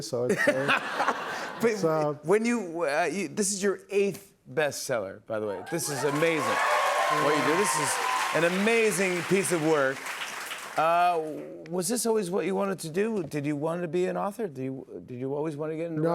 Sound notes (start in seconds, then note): 0.2 laughter; 5.6 cheers and applause